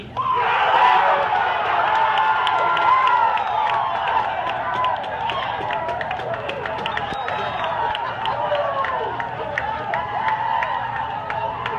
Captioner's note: crowd Cheering